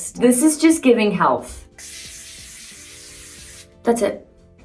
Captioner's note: bronzing spray spritzing; lively music